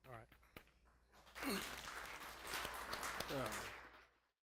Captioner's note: applause